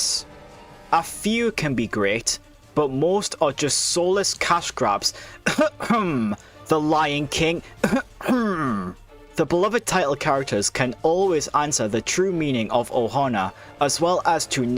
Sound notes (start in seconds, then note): 7.6 cough